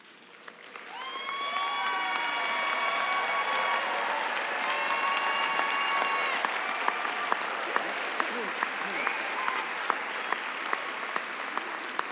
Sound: applause and cheering

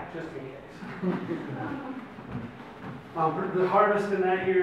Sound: audience laughs

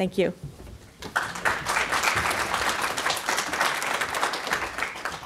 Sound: audience applauding

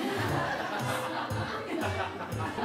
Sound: laughing

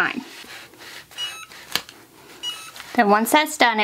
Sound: hat press beeps

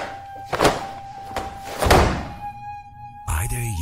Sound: clothes slapping

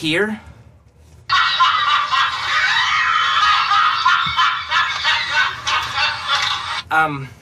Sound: laughter

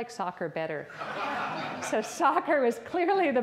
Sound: audience laughs

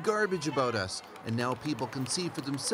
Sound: speaking russian

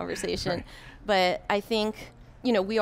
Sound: chuckles

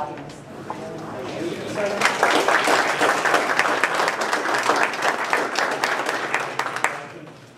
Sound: applause

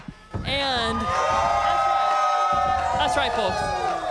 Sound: crowd cheering

